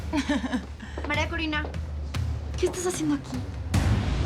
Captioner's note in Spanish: Risas